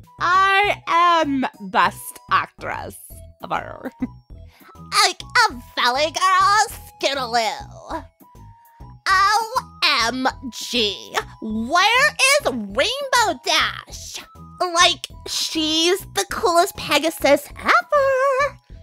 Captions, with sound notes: (valley girl voice) I am best actress... ever! (chuckles) (voice changes to fit character) Like a valley girl Scootaloo! O... M... G! Where is Rainbow Dash? Like, she's the coolest pegasus eveeeeeer!